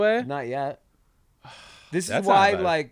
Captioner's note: sighs